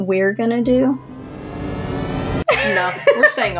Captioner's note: THX Sound; laugh